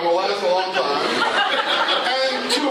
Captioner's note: laughter